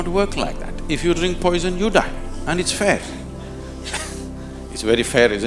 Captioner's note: laughs